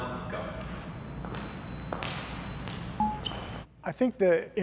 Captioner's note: footsteps tapping